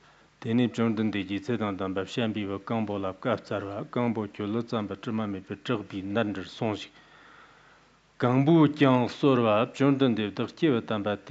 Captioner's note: giving oral transmission in Tibetan